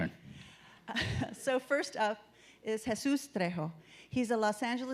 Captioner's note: chuckles